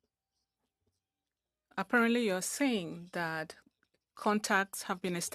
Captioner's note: speaking French